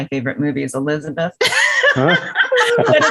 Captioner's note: laughs